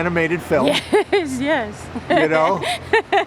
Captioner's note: laughs